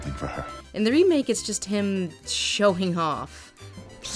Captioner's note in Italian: voce fuori campo